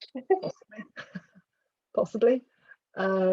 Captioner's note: both laugh